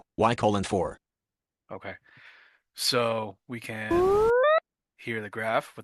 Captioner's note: ascending tone